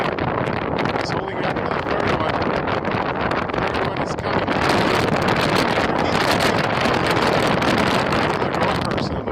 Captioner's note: wind noises; wind noises increase